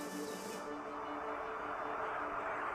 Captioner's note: chorus of croaks and honks